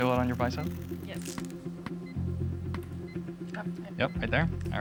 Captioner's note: device beeping, hammer tapping in rhythm